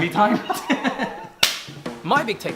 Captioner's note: laughter